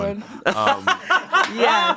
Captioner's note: laughs